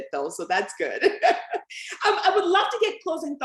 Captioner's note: laughter